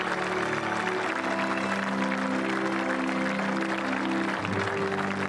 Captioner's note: applause